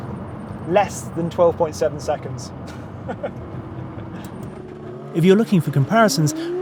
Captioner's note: chuckles